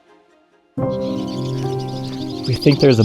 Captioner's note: animals chattering